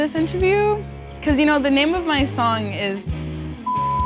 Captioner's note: beep